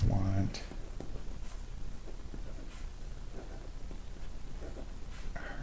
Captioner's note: writing Sounds